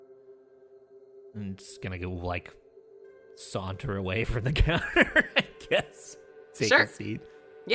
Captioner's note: laughs